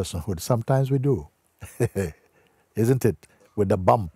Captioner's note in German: Lachen